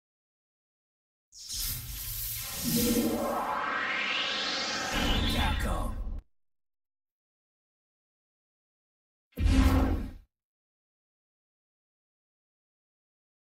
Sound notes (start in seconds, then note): 1.4 electricity zapping, accompanied by digitally-synthesized whoosh sounds; 6.9 silence; 10.3 silence continuing